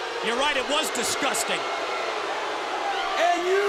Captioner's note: crowd cheering